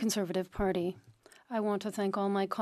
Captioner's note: speaking French